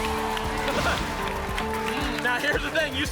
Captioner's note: applause and cheering